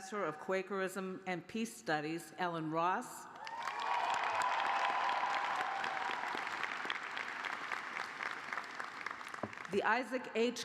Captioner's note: cheers and applause